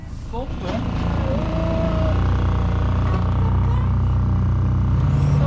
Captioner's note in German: Bootsmotor brüllt